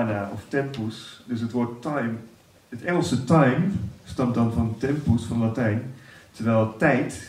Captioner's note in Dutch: Latin